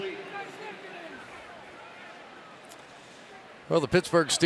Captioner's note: pa announcement